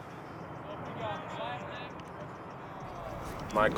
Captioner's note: people chatters